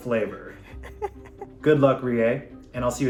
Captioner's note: laughing